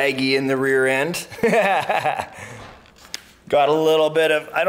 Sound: laughing

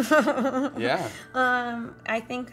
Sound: Michelle giggles

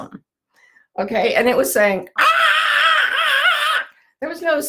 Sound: shrieks

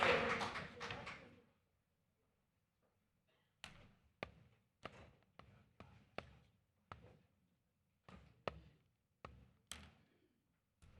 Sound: applause

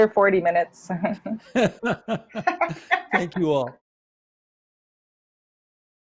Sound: laughter

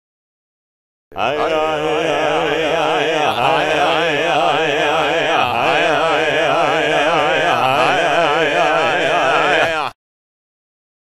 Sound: shaman voices

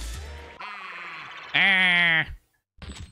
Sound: duck Noise

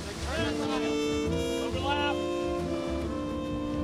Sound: men shout

